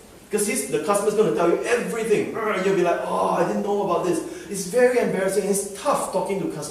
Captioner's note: groans